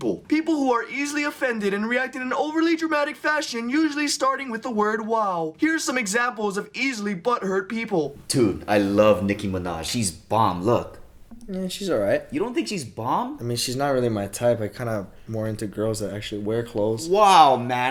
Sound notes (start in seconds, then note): none